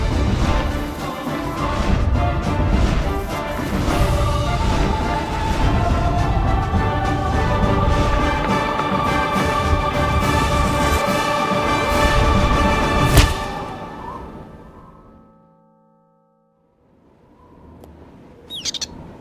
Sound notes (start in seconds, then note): 0.0 low whooshing; 0.9 dramatic music; 1.5 low whooshing; 3.0 dramatic music; 3.6 low whooshing; 5.1 dramatic music; 5.9 low whooshing; 6.8 music intensifies; 10.1 music crescendos; 13.0 rock thuds; 14.4 wind whistles